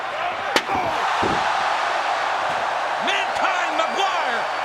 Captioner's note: chair thuds